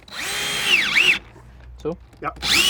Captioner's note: whirring